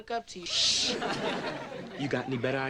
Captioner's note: audience laughing